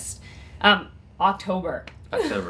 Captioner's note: laughs